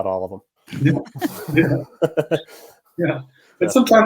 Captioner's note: laughs